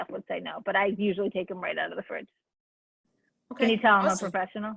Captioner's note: laughs